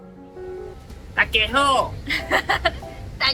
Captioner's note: hokkien